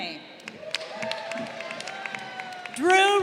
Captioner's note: crowd cheering